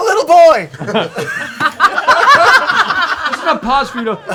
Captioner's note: laughter